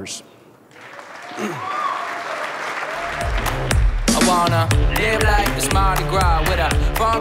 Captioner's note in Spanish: aplausos, música